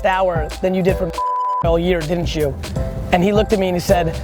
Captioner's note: beep